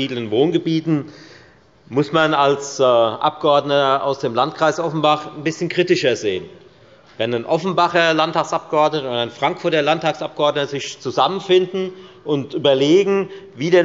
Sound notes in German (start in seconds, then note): none